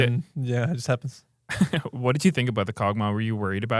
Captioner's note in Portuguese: risos